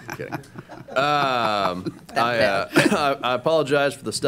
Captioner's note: laughter